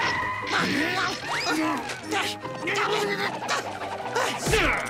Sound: grunting

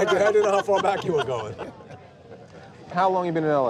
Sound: laughs

